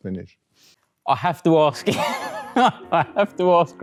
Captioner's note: laughs